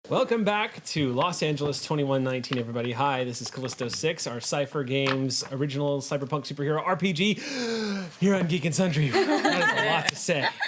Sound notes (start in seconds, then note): 7.4 inhales deeply; 9.0 laughing